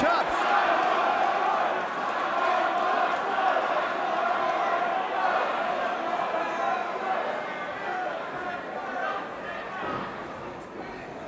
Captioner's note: crowd cheering